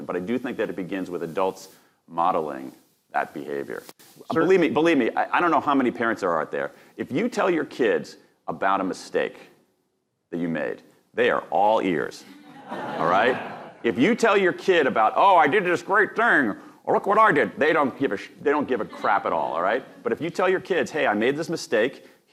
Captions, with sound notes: But I do think that it begins with adults modeling that behavior. Believe me, believe me, I don't know how many parents are out there, if you tell your kids about a mistake that you made, they are all ears. (audience laughing) All right? If you tell your kid about, "Oh, I did this great thing, look what I did." They don't give a crap at all, all right? But if you tell your kids, "Hey, I made this mistake.